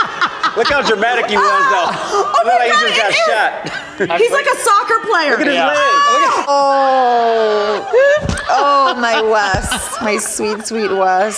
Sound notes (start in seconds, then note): 5.4 contestants groan